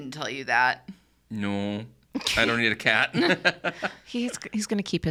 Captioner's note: laughs